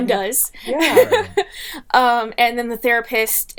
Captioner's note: laughing